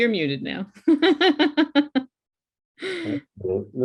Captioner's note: laughs